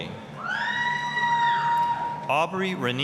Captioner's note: applause, cheering